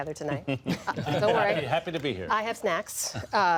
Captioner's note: laughter